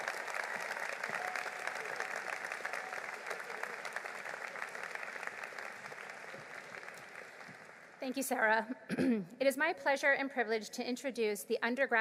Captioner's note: applause